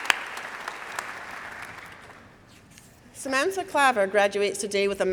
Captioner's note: applause